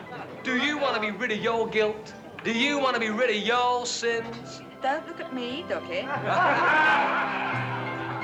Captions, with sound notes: DO YOU WANT TO BE RID OF YOUR GUILT? DO YOU WANT TO BE RID OF YOUR SINS? DON'T LOOK AT ME, DUCKY! [laughter]